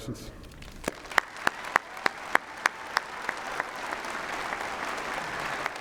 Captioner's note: cheering and applause